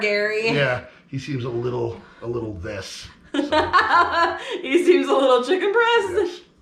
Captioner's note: laughing